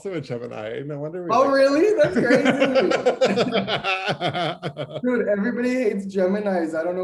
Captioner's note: laughter